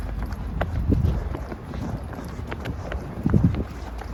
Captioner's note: wind blowing